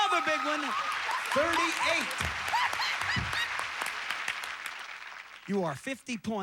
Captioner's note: audience applauding